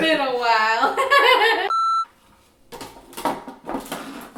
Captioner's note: laughing